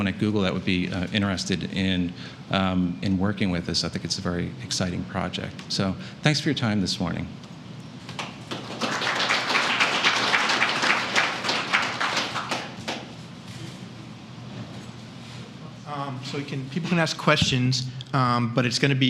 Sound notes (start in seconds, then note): 8.1 applause